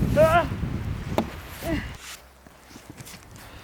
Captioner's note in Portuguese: grunhindo